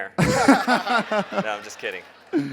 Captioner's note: laughs